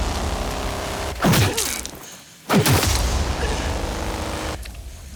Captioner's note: heavy breathing